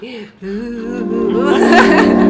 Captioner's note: continues laughing with horror music in background